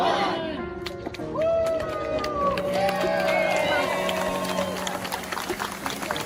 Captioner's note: people in the crowd clap and cheer